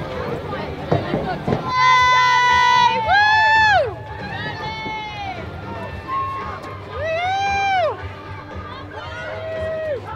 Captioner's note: cheering